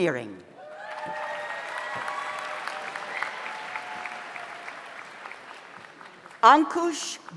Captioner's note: audience cheers; audience applauds